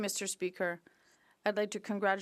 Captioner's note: speaking French